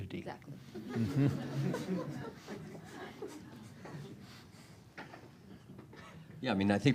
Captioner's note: laughter